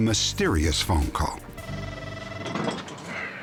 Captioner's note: phone rings